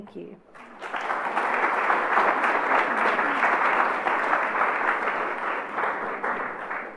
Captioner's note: applause